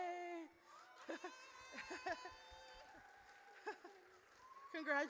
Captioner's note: audience cheers